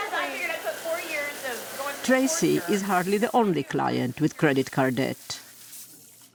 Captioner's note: voice-over